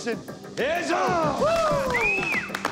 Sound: cheers, applause

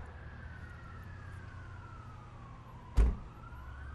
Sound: sirens blaring

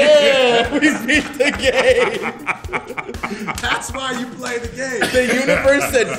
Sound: laugh

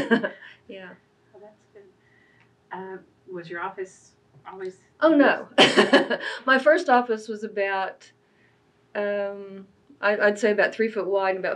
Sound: laughs

